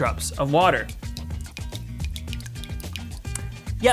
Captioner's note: water dripping